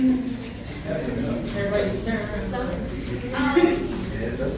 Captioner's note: audience chatting